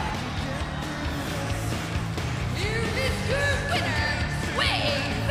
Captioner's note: bell ringing